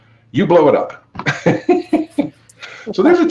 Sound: laughs

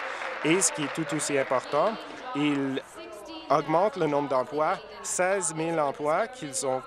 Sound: applause

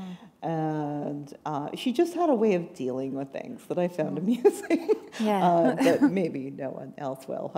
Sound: chuckle

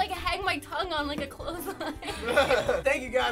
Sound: laughter

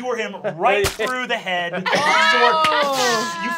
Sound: laughing

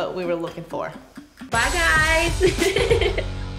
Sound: giggles

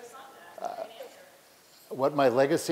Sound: multiple audience voices

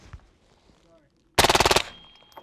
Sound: rapid fire

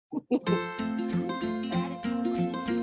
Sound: laughs

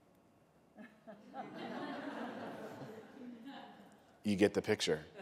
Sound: laughter

